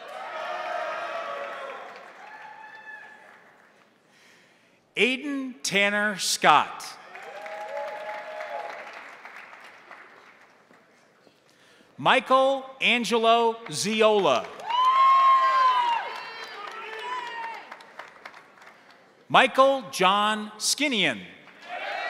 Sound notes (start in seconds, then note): 0.0 crowd cheering; 0.0 crowd applauding; 7.0 crowd cheering; 7.0 crowd applauding; 13.9 crowd applauding; 14.0 crowd cheering